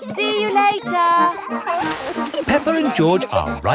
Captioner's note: peppa and george laughing